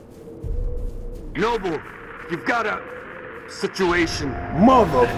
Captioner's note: radio